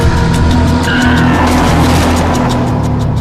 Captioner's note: screeching